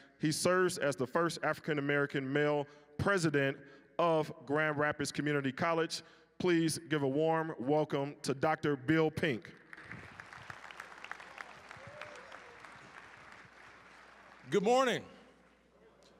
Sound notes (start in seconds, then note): 9.5 applause